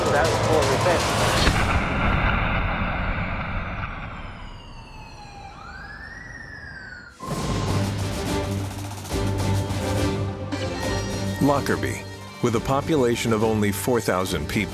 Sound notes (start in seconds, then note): 0.3 tense music; 4.1 distant sirens blaring; 7.2 upbeat music